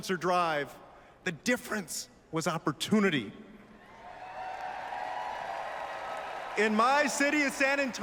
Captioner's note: applause